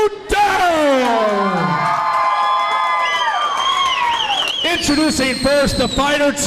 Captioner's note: crowd cheers